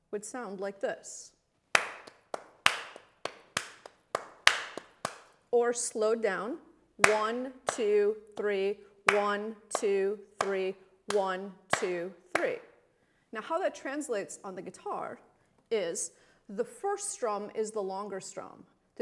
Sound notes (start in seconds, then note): 1.7 clapping rhythmically